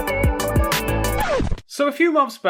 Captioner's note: record scratch